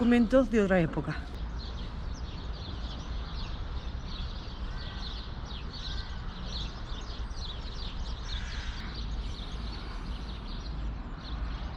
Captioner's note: sound of birds